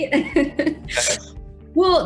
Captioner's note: laughter